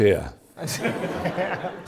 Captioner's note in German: Lachen